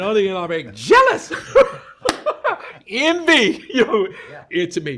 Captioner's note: laughs